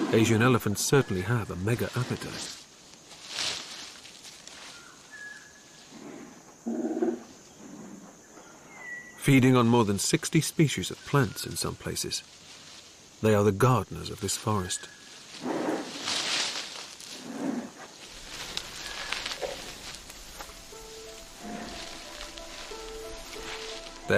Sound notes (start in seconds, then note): 6.1 groaning; 15.5 leaves crushing; 19.6 calm music